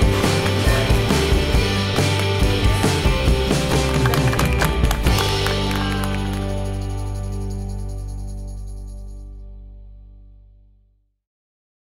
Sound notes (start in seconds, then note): 3.3 applauding